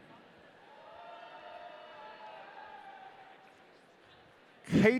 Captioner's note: audience cheering